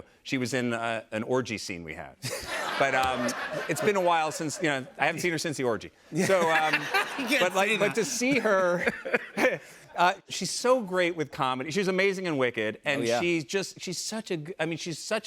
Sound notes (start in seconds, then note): 2.2 laughter; 9.1 laughs